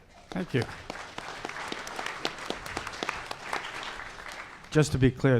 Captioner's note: audience applauding